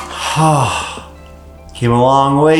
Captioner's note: sighs